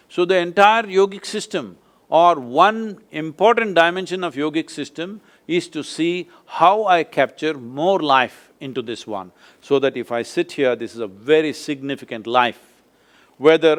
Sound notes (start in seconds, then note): none